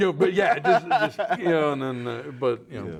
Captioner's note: laughing